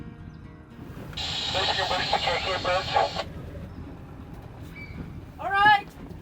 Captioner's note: seagulls cawing; 2-way radio static